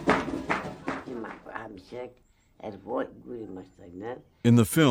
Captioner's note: speaking foreign language